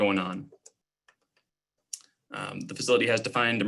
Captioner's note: clicking